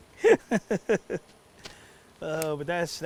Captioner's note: laughing